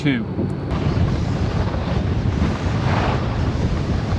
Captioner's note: snow crunching